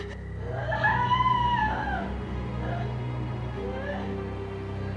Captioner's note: Maggie screaming; dramatic music